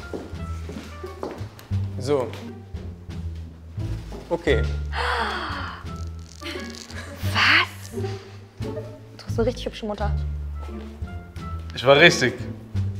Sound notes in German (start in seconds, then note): 1.3 Abwartende Musik; 4.9 Erstaunter Laut; 10.2 Abwartende Musik